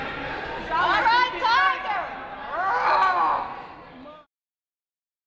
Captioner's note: roars